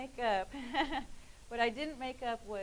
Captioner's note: laughing